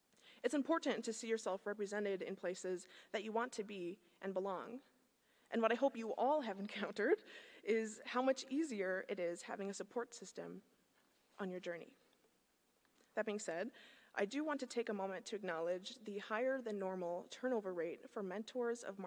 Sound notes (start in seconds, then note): none